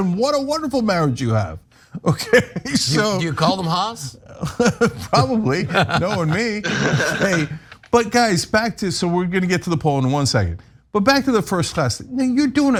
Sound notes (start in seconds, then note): 5.2 laugh